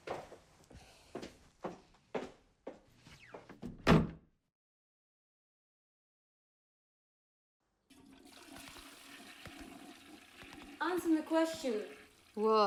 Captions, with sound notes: (door thuds) (toilet flushes) - Answer the question. - What?